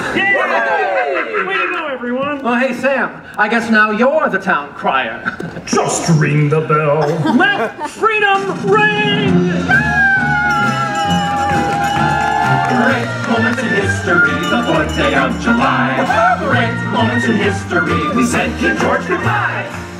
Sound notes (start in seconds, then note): 0.0 cheers; 8.4 drum roll; 9.5 audience cheers; 10.3 patriotic themed music; 10.4 bell rings; 11.0 patriotic themed music; 13.9 patriotic themed music; 15.7 patriotic themed music; 17.4 patriotic themed music; 19.2 patriotic themed music